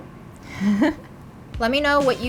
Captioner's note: laughing